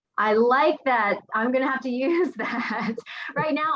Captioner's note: laughing